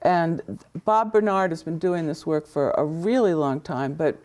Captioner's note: none